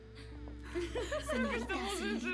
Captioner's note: giggles